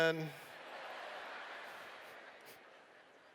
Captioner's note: laughter